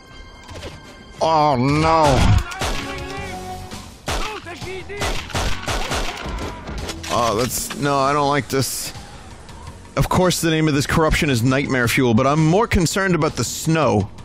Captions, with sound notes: [Tinky Winky voice] Ohhh no. Oh, that's-- no, I don't like this... Of course the name of this corruption is "Nightmare Fuel", but I'm more concerned about the snow.